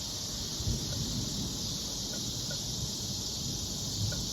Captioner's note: cicadas, bamboo wind chimes, and distant thunder